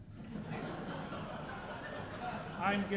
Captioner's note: audience laughing